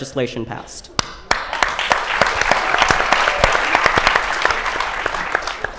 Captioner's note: applause